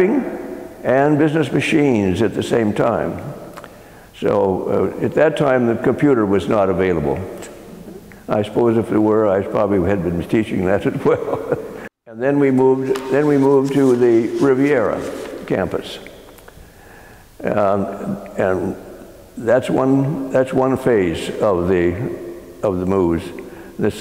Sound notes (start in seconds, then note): 11.0 laugh